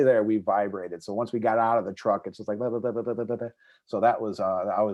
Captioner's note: makes vibrating noise